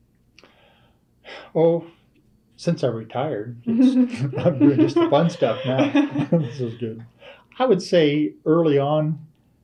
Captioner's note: laughter